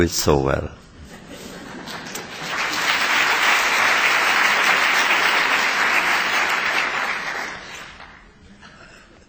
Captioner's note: laughter; applause